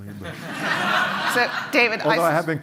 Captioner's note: laughter